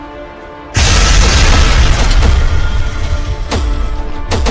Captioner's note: ground crashes; steps thudding